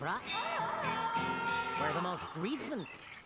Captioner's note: wailing